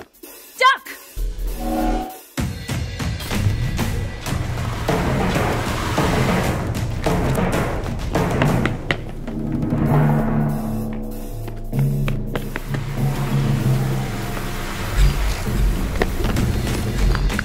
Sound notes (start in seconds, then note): 1.2 time freeze sound